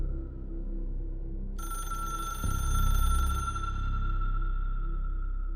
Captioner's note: phone rings